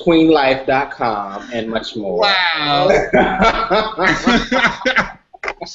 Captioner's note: laughter